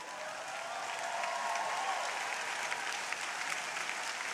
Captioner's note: crowd applauding